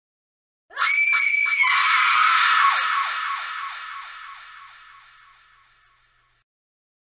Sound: scream with echo

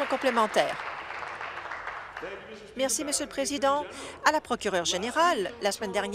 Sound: applause

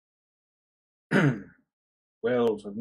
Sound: clears throat

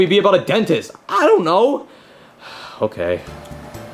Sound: sighs

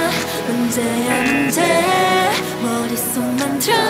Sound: sings in Korean; buzzer rings; sings in Korean

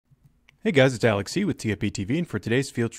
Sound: voiceover

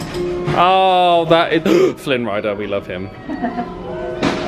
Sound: gasps

